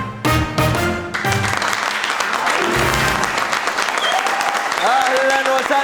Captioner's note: clapping